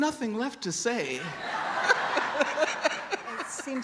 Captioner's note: laughter